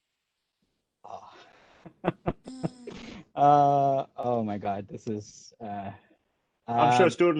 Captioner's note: laughs